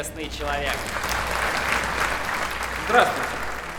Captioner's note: applause